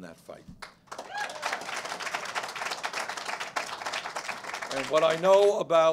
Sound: cheers and applause

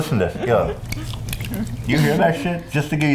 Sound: odd liquid noise

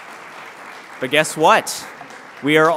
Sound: applause

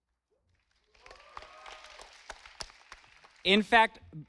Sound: audience applauding

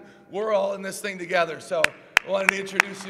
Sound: applause

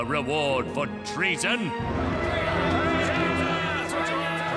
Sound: yelling

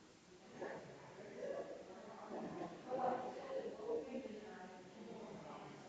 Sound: people chattering distantly continues

